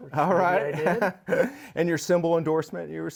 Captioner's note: laughs